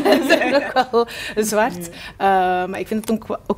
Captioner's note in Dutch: gelach